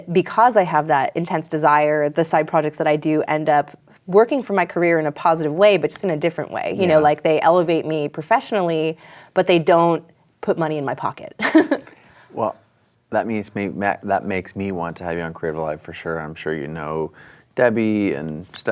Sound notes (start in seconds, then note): 11.4 chuckles